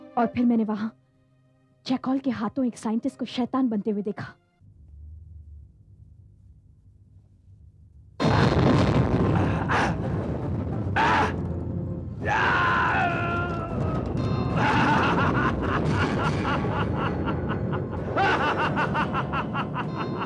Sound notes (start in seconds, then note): 9.8 grunts; 14.6 laughs